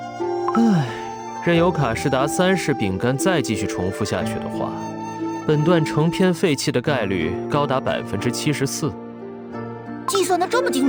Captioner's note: sighs